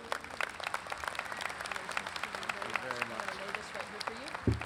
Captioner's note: audience applauds